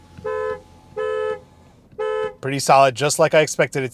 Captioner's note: car horning